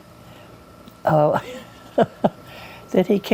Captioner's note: chuckles